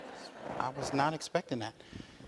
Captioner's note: audience laughs